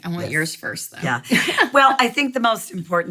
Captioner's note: laughing